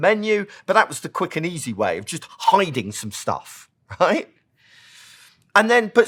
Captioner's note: laugh